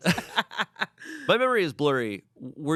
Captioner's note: laughs